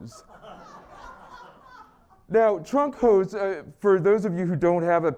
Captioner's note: laugh